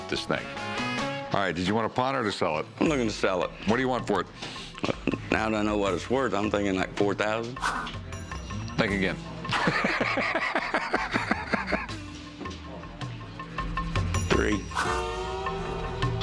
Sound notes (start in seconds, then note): 9.4 laughs